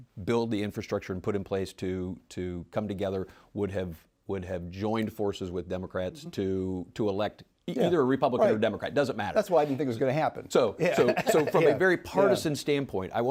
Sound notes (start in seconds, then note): 10.8 laughs